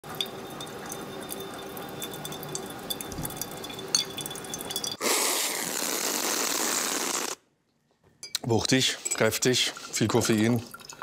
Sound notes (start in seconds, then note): 2.8 clacking